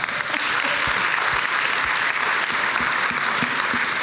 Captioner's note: applause